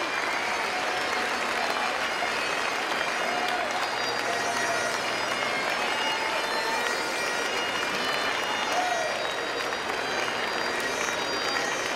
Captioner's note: applause & cheering